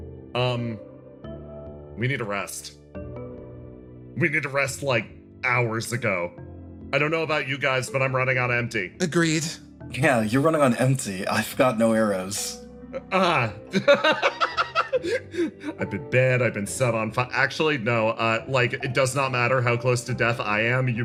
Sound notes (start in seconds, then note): 13.6 laugh